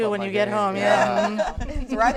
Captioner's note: laughter